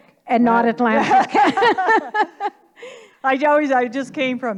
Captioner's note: laughing in unison